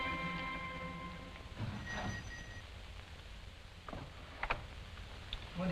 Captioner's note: doorbell ringing